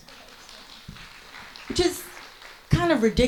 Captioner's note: audience applauds